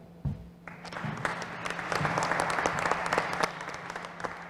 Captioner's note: applause